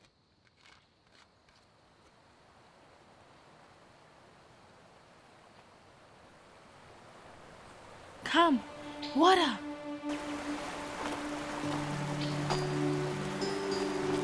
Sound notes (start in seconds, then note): 3.1 water rushing; 8.2 gentle music